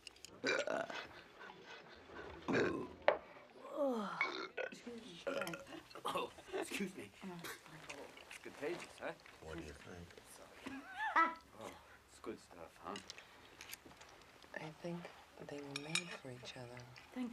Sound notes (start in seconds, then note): 0.3 burps; 2.4 lydia burps then sighs